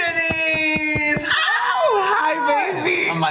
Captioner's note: breastplate thudding; squeals